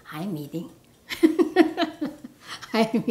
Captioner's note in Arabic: ضحك